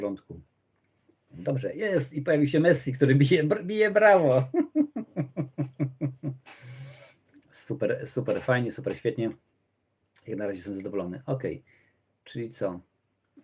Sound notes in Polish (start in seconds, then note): 4.3 śmiech